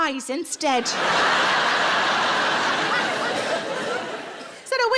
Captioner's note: audience laughs